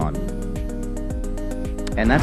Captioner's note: bonk